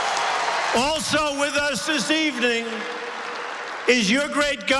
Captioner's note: applause